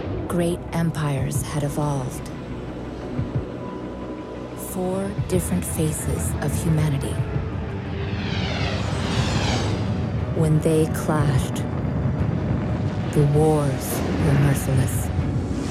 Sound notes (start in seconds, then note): 7.3 thrusters whooshing